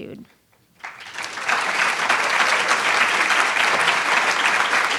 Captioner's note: crowd applauds